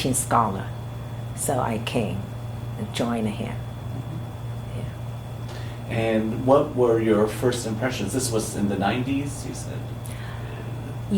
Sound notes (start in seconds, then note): none